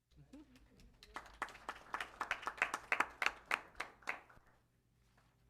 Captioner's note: applause